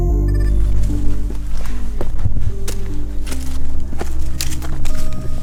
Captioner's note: footsteps pattering